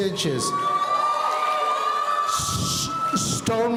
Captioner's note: audience cheering